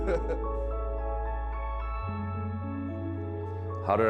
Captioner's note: energy deprived giggle